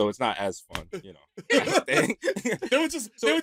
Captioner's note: all laugh